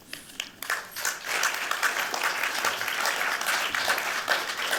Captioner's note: applause